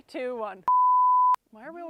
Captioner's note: production tone beeping